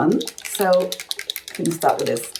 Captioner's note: bottle rattling